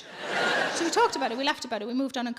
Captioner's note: audience laughing